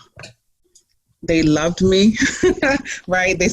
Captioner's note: laughs